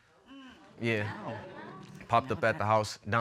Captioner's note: audience exclaims